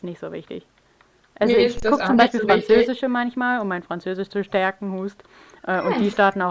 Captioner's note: cough